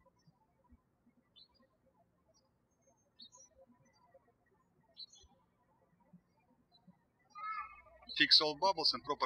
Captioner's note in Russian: птички щебечут